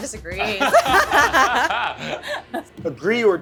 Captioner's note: laughing